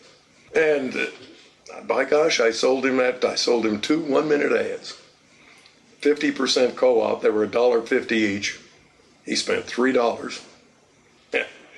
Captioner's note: laughs